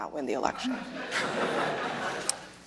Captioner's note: laughter